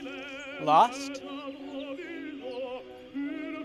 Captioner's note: voiceover